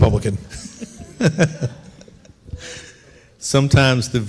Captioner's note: laughing